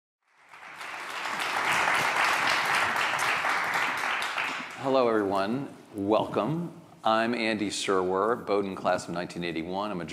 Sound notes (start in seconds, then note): 0.2 audience applauding